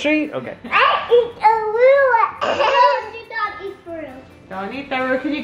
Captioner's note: laughing